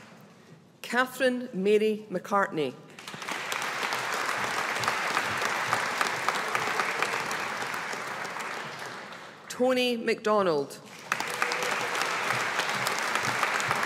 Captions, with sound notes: Kathryn Mary McCartney. (AUDIENCE APPLAUDING) Toni McDonald. (AUDIENCE APPLAUDING)